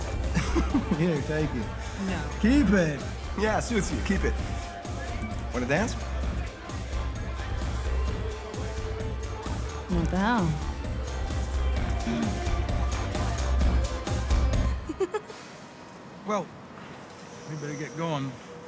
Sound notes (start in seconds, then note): 0.0 laughs; 14.5 laughs